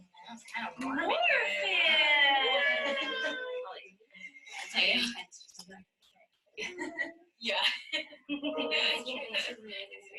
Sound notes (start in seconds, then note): 2.3 cheering